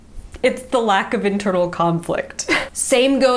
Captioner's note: chuckles